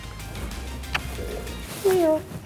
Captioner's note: lips smacking